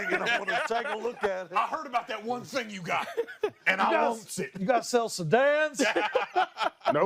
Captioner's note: laughter